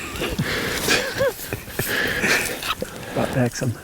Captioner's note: laughter